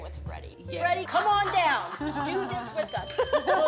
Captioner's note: laughter